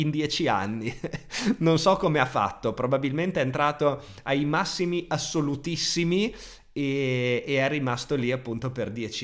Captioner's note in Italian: risate